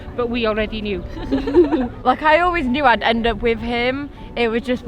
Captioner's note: laughs